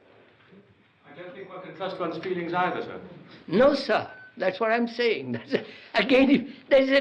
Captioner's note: laughs